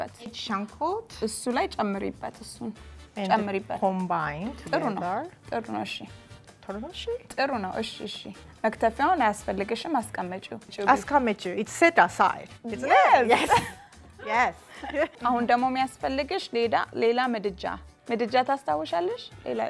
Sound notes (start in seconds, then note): 7.3 speaking Amharic; 11.0 Amharic; 14.9 speaking Amharic